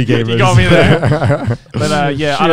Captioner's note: laughs